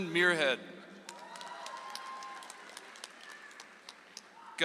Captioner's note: audience applauds